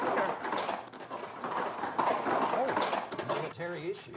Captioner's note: horse clomping